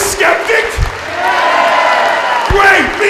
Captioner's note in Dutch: gejuich